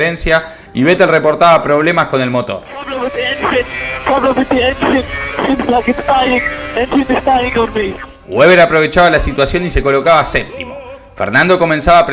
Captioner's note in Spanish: radio